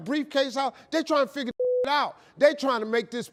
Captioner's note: beep